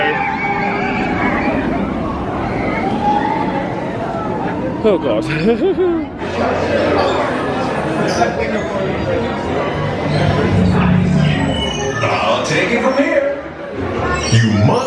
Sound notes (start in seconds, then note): 0.0 rollercoaster riders screaming; 5.3 chuckles; 6.6 crowd chattering; 11.5 lights ringing